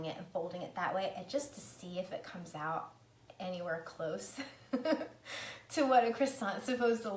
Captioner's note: laughs